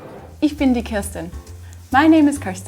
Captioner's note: speaks in foreign language